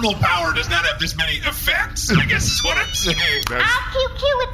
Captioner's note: phone beeps